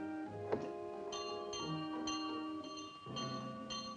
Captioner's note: bell rings